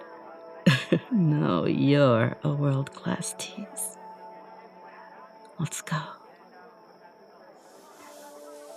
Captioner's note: chuckles